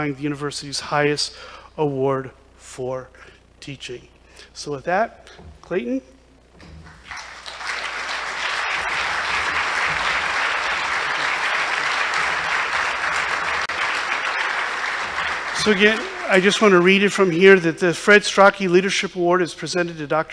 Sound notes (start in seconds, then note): 3.8 applause